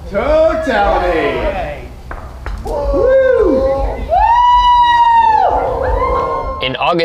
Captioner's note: crowd cheers